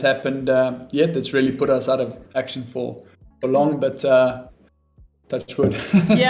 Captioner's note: laughs